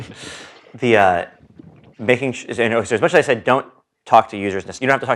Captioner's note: laugh